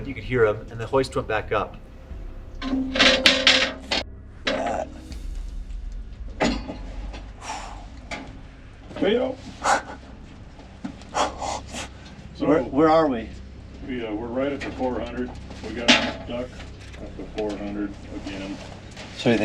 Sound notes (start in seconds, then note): 2.9 clanging; 7.7 sighs